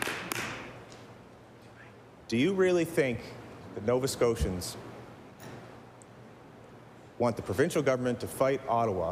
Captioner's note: applause